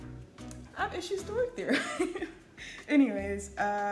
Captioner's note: laughs